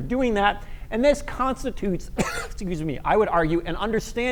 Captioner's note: coughs